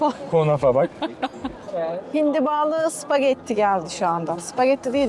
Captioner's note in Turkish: kahkaha